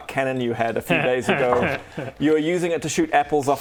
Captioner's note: impish giggle